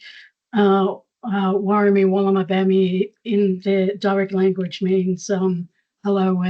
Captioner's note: foreign language